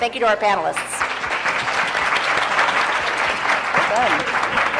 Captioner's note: applause